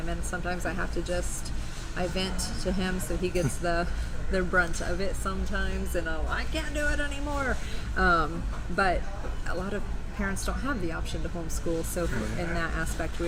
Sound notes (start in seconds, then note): 3.4 laughing